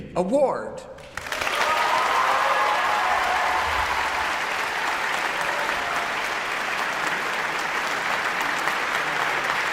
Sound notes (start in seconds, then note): 1.1 audience applauds; 1.2 audience cheers